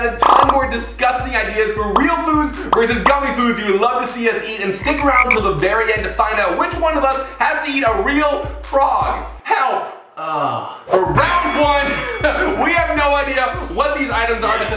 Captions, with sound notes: a ton more disgusting ideas for real foods versus gummy foods you would love to see us eat, and stick around to the very end to find out which one of us has to eat a real frog. Help! - Ugh. - Round one. (bell dings) We have no idea what these items are